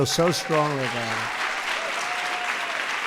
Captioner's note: applause